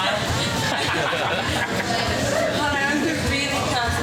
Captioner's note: laughing